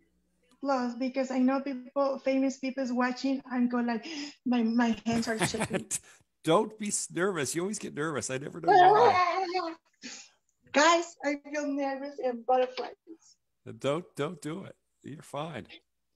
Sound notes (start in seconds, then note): 5.1 laughs